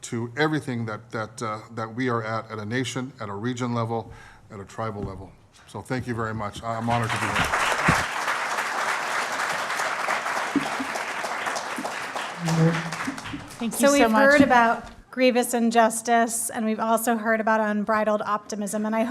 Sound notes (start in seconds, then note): 6.8 applause